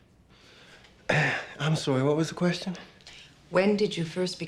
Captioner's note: clears throat